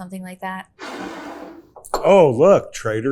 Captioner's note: bottle scrapes